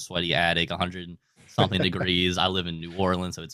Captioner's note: laughing